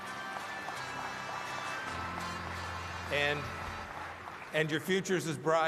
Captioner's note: applause